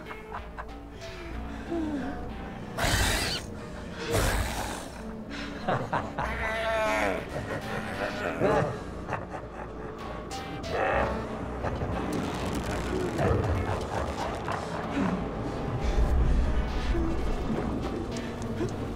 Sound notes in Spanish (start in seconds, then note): 2.8 Rugido; 5.4 Risas; 8.9 Risas; 14.6 Respirando profundamente